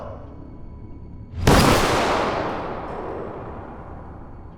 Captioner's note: gun fires